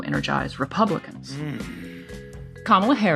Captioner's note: groan